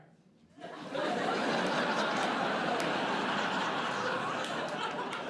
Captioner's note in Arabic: ضحك